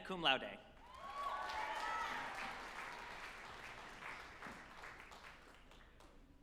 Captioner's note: group applauding and cheering